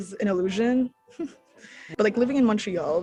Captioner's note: chuckles